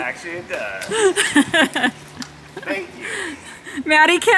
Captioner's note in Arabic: يضحك